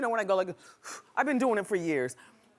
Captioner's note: inhaling